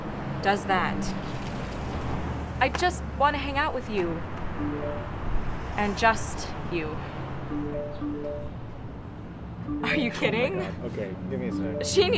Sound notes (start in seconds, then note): 4.6 text tone; 7.5 multiple text tones